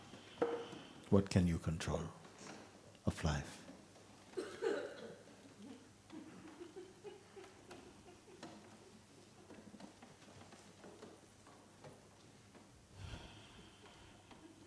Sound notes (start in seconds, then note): 5.8 silence